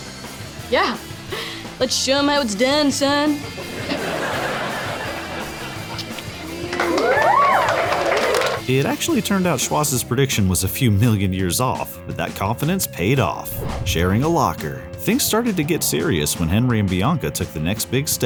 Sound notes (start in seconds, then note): 5.9 kissing